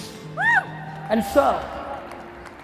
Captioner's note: quick applause